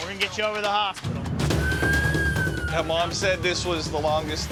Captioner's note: siren wailing